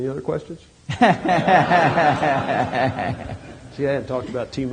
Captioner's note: laughter